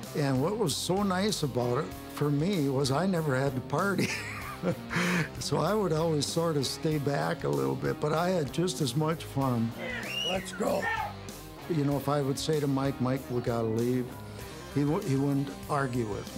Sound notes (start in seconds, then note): 4.0 laugh